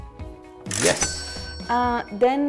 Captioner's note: cash register cha-ching